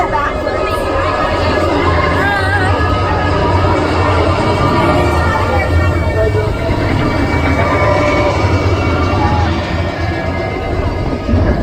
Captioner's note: rain